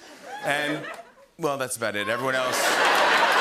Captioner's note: laughter and cheering